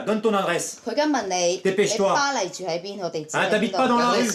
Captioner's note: foreign language